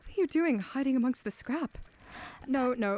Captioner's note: etta inhales